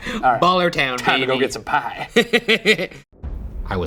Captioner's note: laughing